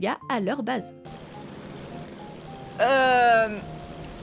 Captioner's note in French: bruit moteurs